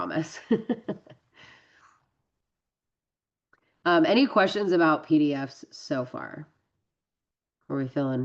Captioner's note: laughs